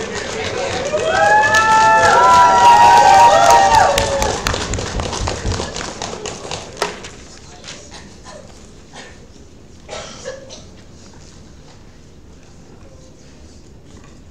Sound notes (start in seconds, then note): 1.6 crowd cheers